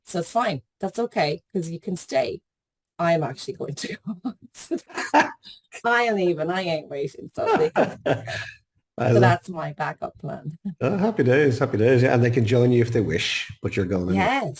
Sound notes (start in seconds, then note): 4.6 laughs; 7.4 laughing